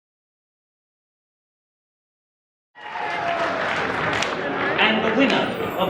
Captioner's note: applause